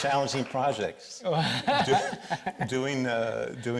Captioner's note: laughs